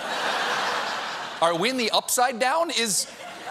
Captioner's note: laughter